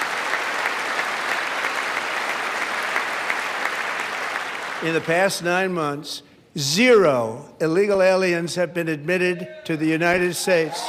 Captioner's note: applause